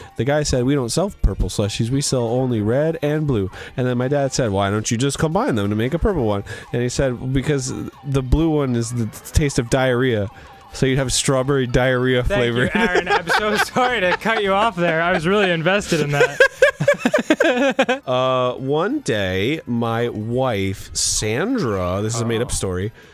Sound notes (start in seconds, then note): 12.4 laughs; 16.1 both laugh together